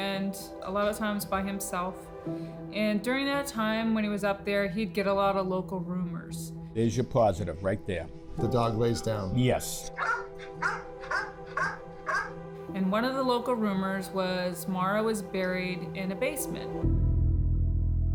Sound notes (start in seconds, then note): 9.9 dog barks